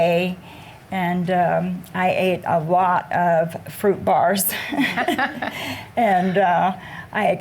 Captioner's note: chuckles